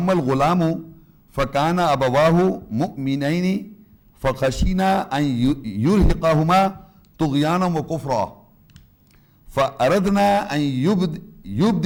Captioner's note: عربی تلاوت